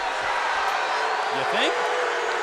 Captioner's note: crowd cheering